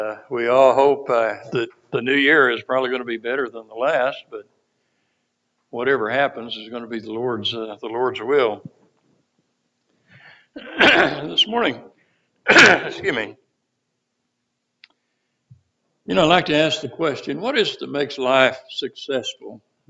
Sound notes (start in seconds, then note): 12.4 cough